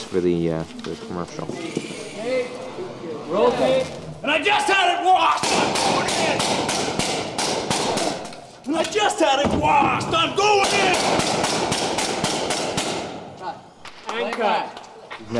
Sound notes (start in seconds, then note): 5.2 gunfire; 11.4 gunfire; 13.8 clapping